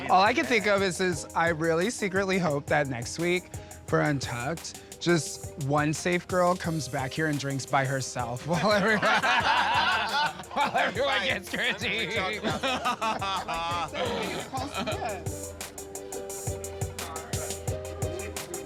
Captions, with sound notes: - All I could think of is this, I really, secretly hope that next week for Untucked, just one safe girl comes back here and drinks by herself. [chuckles] While everyone gets critiqued! [laughter] [hip hop tune]